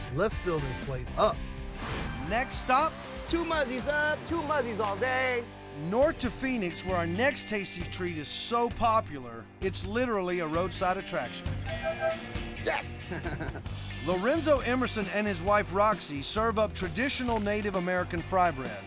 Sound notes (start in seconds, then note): 11.6 honking; 12.8 chuckling